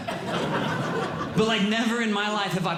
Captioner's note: audience Laughing